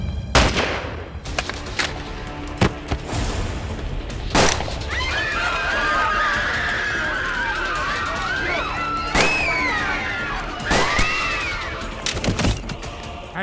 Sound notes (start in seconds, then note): 0.3 Gun shot; 2.5 Thuds on ground; 4.3 Gunshot; 4.7 People screaming; 11.9 Door opens